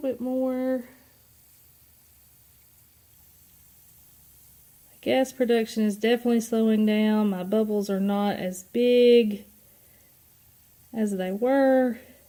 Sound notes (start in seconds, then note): 1.5 fizzes